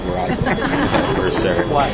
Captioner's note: laughing